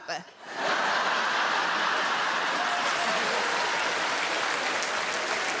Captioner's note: crowd laughs and applauds